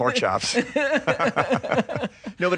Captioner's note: laughter